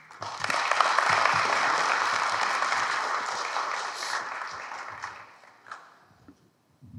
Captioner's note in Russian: аплодисменты